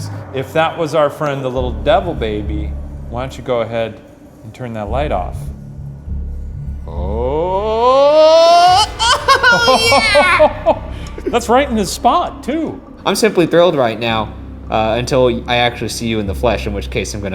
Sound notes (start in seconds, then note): 7.4 laughs; 10.3 chuckling